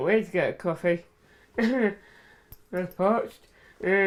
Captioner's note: laughs